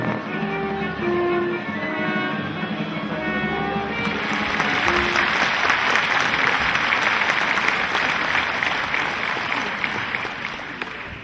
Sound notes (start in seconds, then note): 3.8 audience applauding